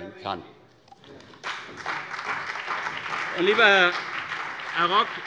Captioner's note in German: Beifall CDU und BÜNDNIS 90/DIE GRÜNEN